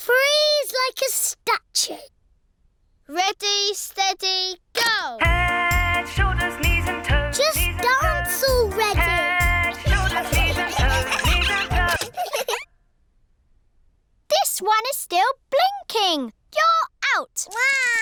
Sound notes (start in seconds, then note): 9.8 giggling; 11.8 music stops